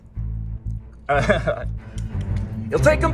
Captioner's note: laughs